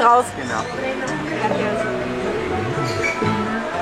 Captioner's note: in Spanish